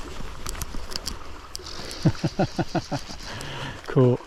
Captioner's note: laughter